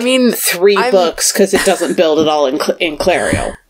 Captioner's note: laughs